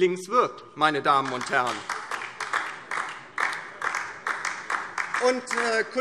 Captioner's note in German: Beifall DIE LINKE